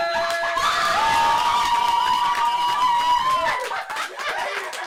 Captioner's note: cheering, clapping